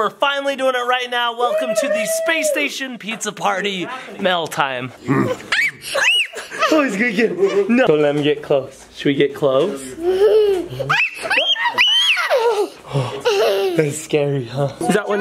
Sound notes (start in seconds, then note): 5.0 grunts; 10.9 screaming